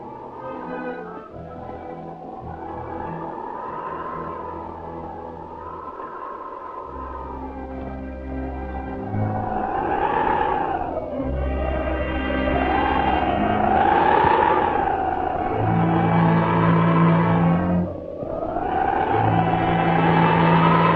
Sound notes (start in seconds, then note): 0.0 tense instrumental music; 9.5 wind howling